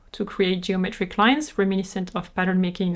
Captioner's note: none